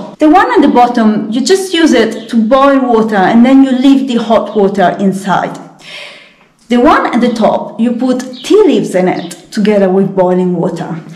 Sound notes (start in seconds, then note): none